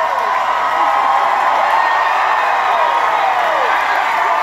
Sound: cheering grows

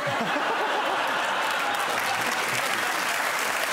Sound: audience laughing

